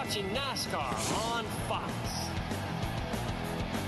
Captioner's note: cheering